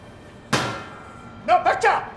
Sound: Cook slaps the countertop

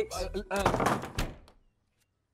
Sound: door closes

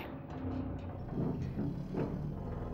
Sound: metallic rumble

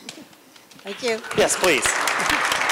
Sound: applause

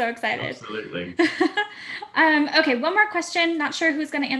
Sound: laugh

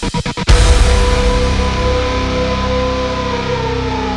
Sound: police sirens slow and distort; music fades out

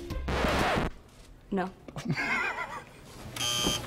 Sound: record scratches; buzzer; laughs

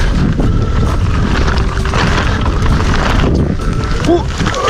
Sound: bike rolling

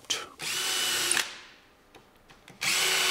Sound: drilling noise

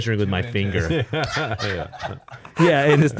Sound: laughing

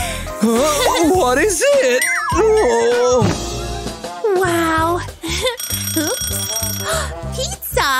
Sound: making happy sounds

